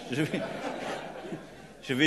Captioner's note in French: Rires